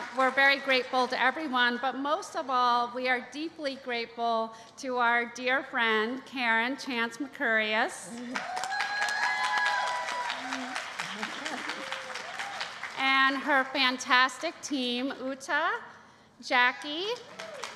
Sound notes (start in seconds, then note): 8.2 cheering